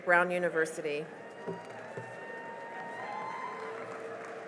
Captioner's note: cheering and applause